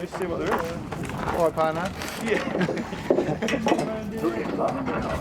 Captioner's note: laughter